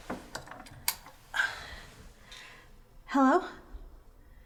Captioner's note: light switch flicking